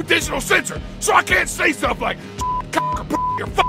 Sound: beep

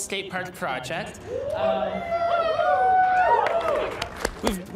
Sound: cheers

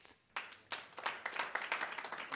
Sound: very small applause

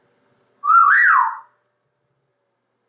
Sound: whistling

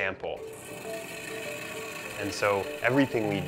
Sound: whirring saw

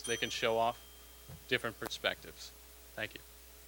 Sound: bell dinging

